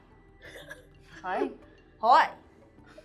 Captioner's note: laughing